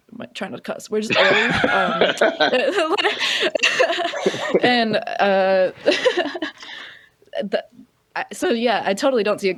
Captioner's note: laughter; laughs